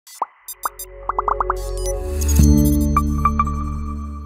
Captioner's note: gentle electronic beeping